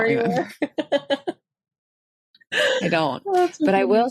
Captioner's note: laughs